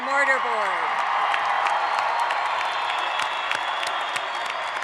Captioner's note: audience applauds